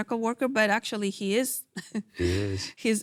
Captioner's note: chuckles